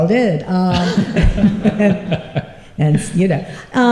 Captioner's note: laughter